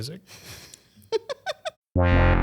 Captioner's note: laughs; eclectic music